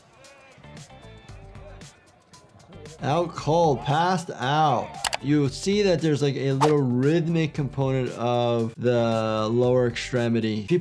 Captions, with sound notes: (upbeat music) Out cold passed out. (keyboard clicking) You'll see that there's like a little rhythmic component of the lower extremity.